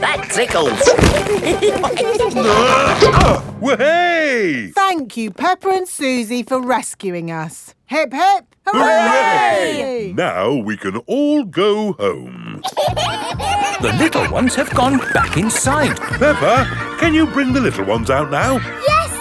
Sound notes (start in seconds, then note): 0.6 all giggling; 2.3 grunting; 12.6 kids giggling